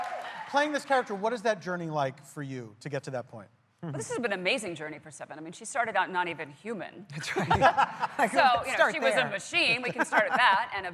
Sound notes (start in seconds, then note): 2.0 applause